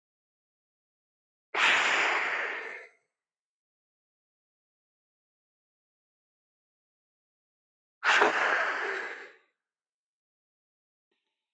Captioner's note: breath